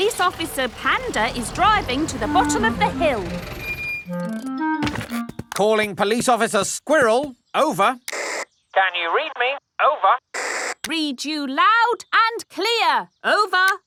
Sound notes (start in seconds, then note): 8.0 walkie-talkie crackles